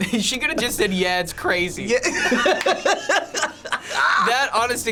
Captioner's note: chuckles; both laugh